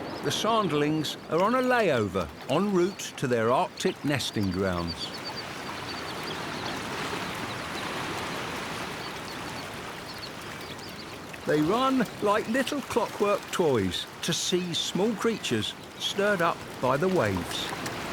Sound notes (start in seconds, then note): 6.0 birds chirp